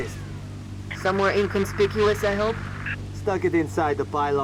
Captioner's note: radio